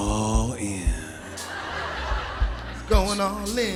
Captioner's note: light laughter